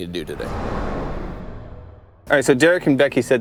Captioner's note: air whooshing